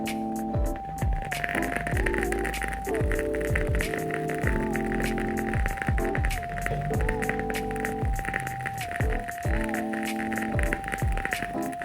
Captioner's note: wood crackling noises